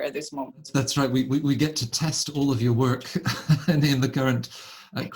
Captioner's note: laughs